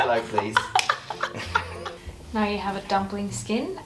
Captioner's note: laughing